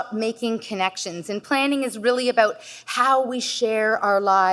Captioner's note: none